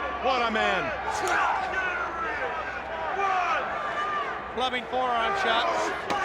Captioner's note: crowd chatter